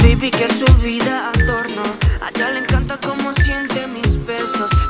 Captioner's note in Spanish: máquina pitido